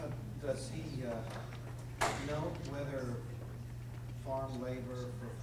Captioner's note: voiceover